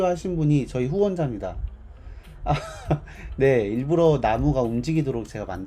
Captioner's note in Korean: 웃음